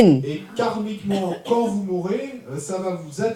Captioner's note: audience member speaks in French